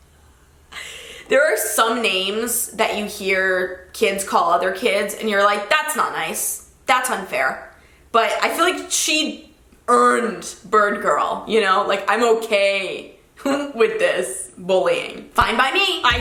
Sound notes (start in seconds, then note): none